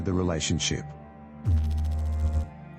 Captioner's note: electrical noise